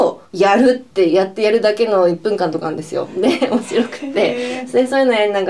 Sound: laughs

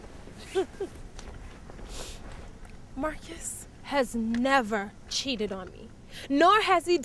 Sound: laughs

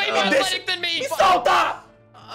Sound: in Portuguese

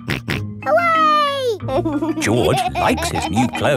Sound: snorts and laughs

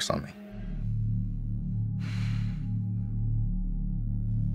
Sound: heavy breathing

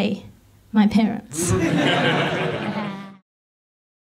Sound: audience laughs

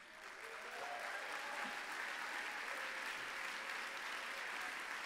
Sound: applause

